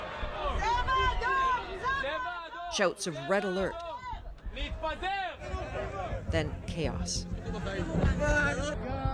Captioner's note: screaming